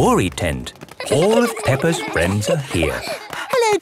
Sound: excited babbling

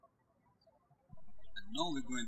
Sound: birds chirping

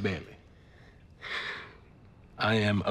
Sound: sighs

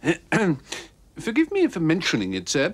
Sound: clears throat

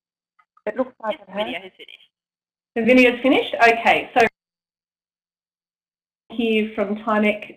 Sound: audio dropout

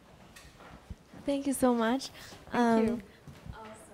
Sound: voiceover

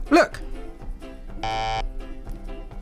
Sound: buzzer

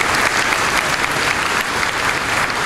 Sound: applause

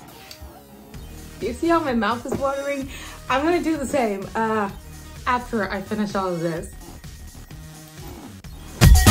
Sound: floor squeaks

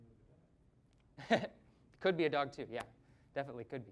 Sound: chuckling

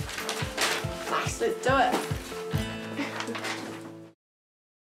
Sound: chuckles

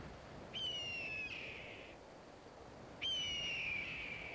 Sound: bird squawking

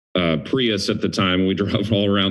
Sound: chuckles

